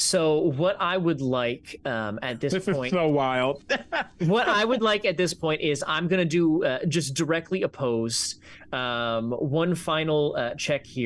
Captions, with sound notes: So what I would like at this point. - This is so wild (laughs). - What I would like at this point, is I'm gonna do just directly opposed, one final check here.